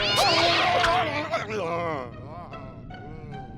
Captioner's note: buzzing and screaming; moaning